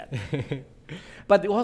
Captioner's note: laughing